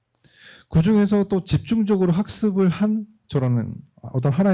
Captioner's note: speaking korean